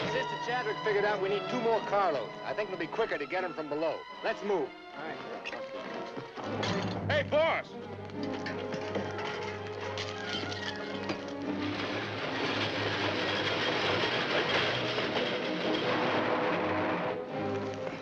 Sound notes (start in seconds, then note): 8.0 dramatic music; 10.5 train cars rumbling